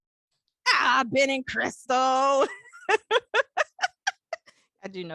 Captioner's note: laughs